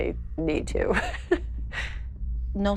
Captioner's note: laughing